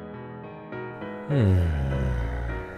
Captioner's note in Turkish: iç çeker